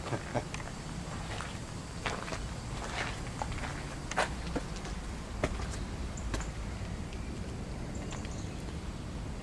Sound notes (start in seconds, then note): 2.6 footsteps